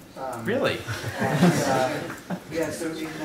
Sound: laughter

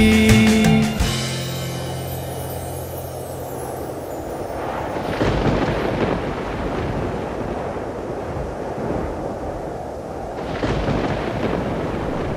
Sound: wind and thunder

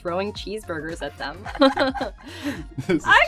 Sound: laughing

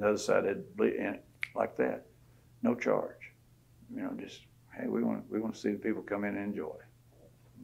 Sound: snaps

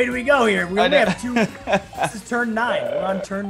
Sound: laugh

